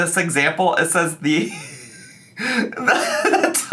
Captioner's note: laughs